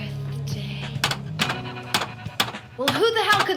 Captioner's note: banging sound